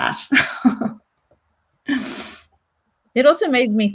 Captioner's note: chuckles